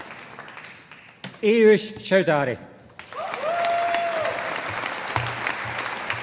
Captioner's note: audience applauding